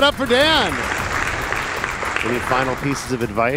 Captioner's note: applause